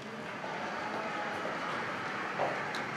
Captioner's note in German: Gedämpfter Applaus